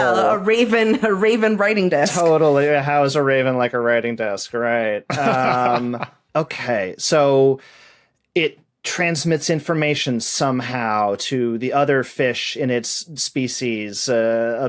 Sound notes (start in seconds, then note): 5.0 laughs